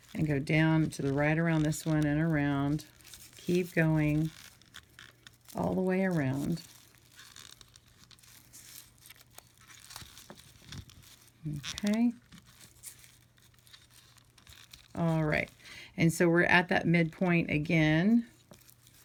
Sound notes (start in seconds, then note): 8.3 raffia ruffling